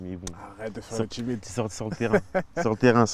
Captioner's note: laughs